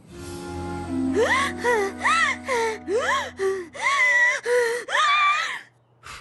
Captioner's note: gasping breaths